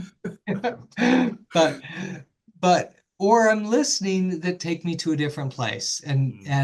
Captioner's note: laugh